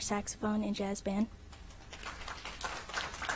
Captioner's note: applause